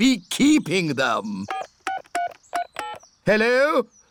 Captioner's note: dialing phone